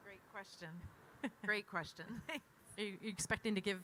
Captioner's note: chuckles